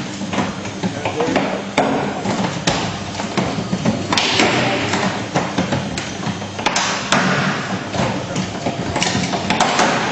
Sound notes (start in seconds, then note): 0.8 loud clattering continues